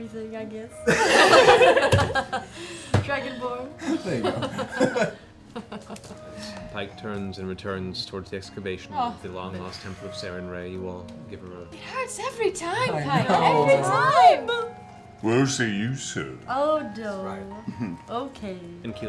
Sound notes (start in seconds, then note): 0.8 laughter